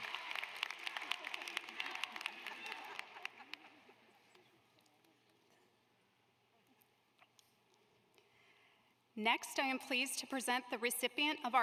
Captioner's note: applause